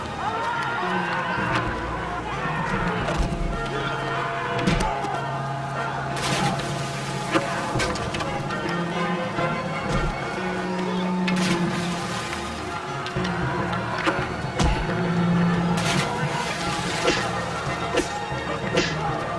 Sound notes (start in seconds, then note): 4.7 thud; 6.1 splash; 11.3 splash; 15.7 splash